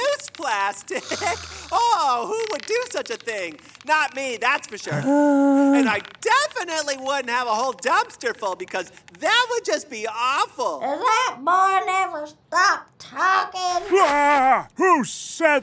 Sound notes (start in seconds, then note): 4.9 sigh; 11.4 voice echoing